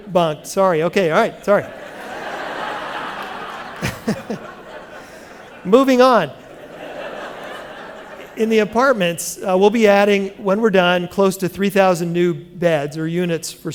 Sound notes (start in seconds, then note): 5.1 laughter